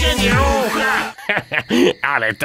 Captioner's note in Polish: śmiech Wala